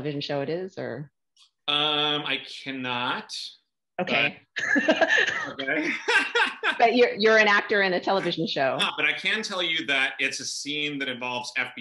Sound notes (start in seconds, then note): 4.5 laughter